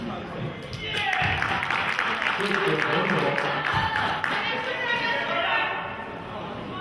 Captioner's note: cheering and clapping